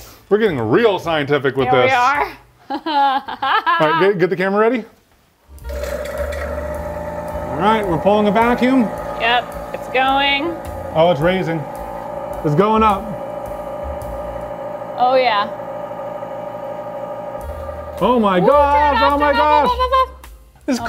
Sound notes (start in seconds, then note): 2.6 laughing; 6.0 machine whirring